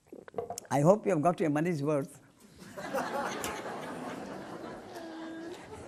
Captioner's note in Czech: smích